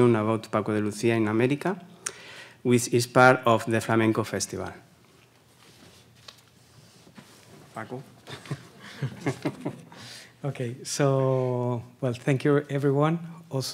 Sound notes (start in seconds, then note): 8.2 laughs